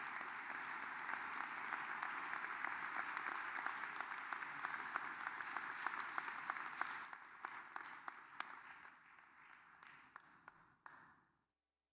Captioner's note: applause